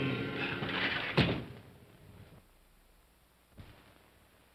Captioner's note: window slides shut